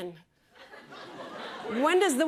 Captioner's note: laughter